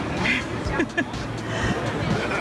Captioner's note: laughs